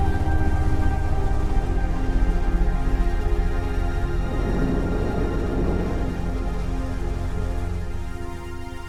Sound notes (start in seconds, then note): 4.4 rocket whooshing